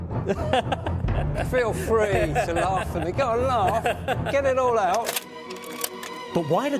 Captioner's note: laugh from the Crystal Palace fan